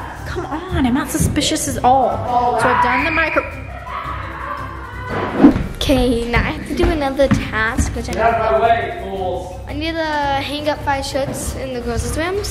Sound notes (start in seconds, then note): 2.5 screaming; 4.0 laughing